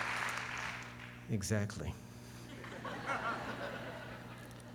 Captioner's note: laughter